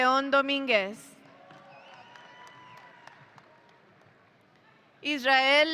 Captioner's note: audience cheering